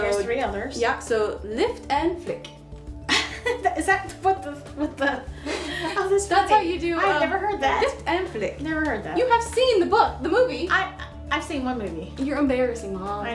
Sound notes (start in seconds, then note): 4.9 laughs; 5.3 both chuckling